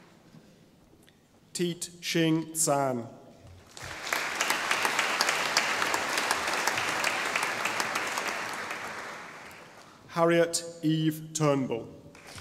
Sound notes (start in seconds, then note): 3.6 audience applauding